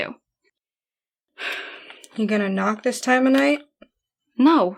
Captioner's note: sighs